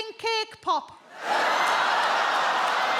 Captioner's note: audience laughs